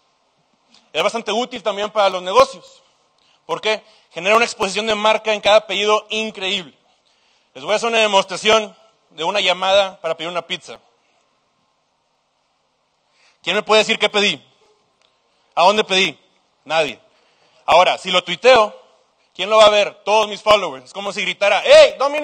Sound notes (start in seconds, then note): 11.2 silence